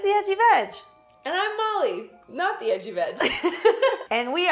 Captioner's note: laughing